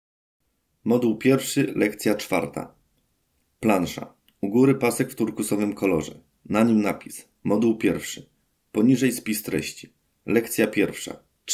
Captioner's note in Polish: Głos męski z offu, audiodeskrypcja planszy